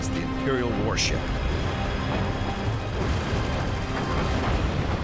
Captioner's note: explosions